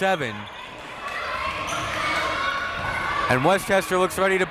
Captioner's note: crowd members shouting